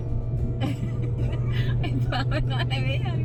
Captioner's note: laughing